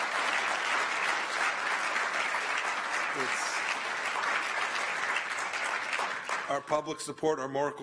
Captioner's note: applause